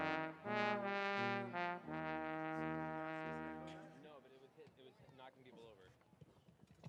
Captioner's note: none